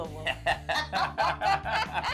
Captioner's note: both laughing